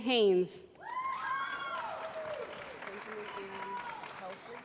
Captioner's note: applause